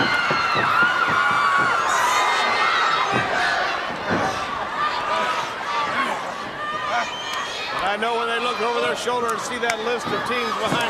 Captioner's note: crowd cheering; crowd chatter